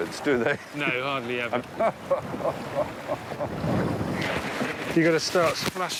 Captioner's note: Stephen laughs